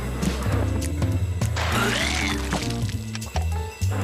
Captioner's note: vomits